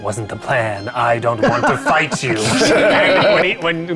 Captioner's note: players laughing; laughing